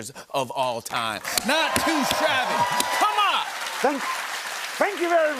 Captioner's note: cheering and applause